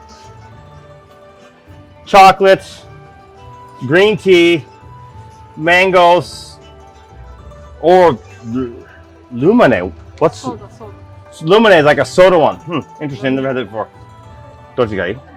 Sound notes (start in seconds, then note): 10.1 Japanese language